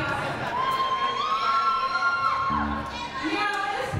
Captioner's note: audience cheers